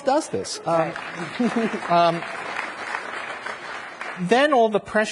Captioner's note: audience applauds